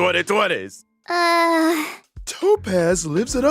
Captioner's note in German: seufz